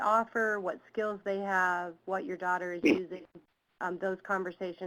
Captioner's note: someone coughs